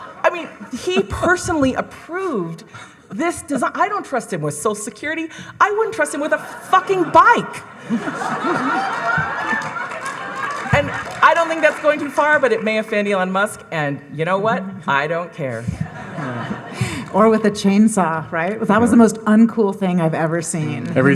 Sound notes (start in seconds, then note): 0.0 audience laughing; 8.1 audience laughing and applauding; 15.6 audience laughing